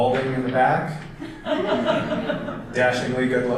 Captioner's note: audience laughter